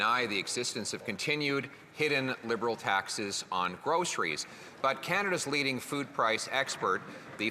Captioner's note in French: voix de l'interprète